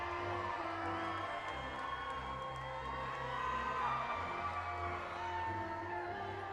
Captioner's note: audience continues applauding and cheering